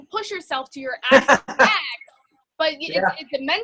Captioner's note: laughs